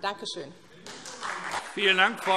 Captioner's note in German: Beifall SPD und DIE LINKE